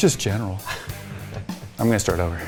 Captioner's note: laughing